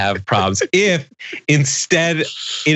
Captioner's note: laugh